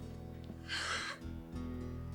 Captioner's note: sobbing